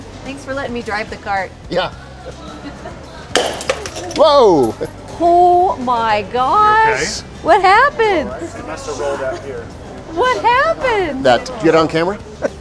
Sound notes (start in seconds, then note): 3.3 pop, shattering